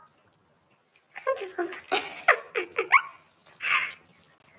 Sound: laughing

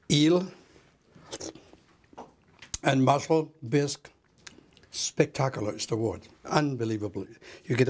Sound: scraping and pouring; slurp

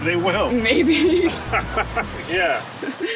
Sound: both laugh

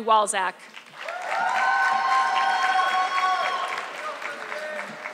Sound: audience clapping

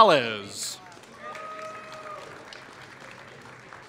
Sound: applause

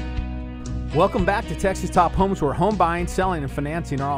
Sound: voiceover

